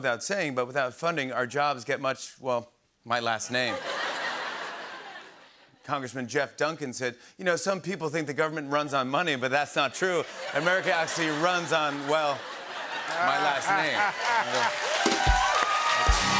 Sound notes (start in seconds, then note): 3.6 laughter; 10.0 laughter and applause; 14.6 rimshot